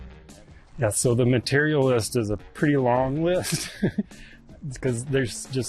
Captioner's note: chuckles